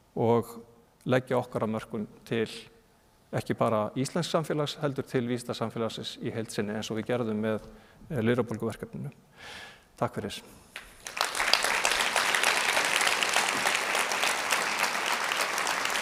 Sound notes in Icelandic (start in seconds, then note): 11.4 fagnaðarlæti